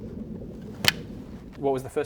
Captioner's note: clap